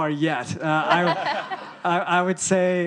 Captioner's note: audience laughing